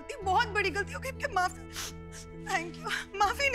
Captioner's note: Cherry crying